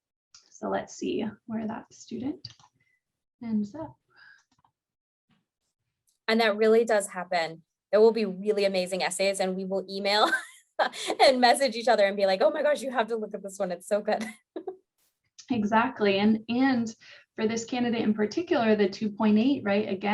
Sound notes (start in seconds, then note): 10.6 laughing; 14.2 giggling